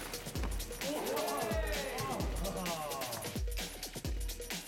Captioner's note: men cheer